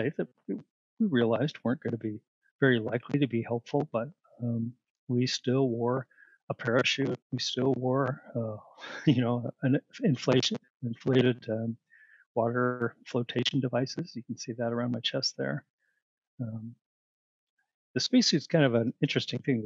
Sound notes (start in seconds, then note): 8.9 laughter